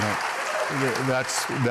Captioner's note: applause